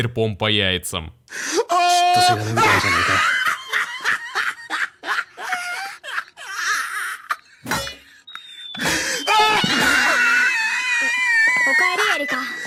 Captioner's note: autistic screeching